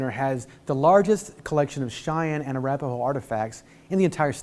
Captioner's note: none